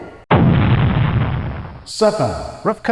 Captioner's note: explosion